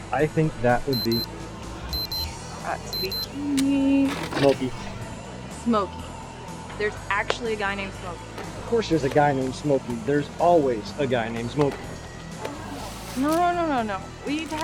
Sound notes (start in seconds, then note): 0.9 pager beeping